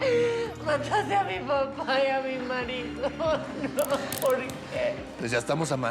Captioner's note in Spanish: sollozos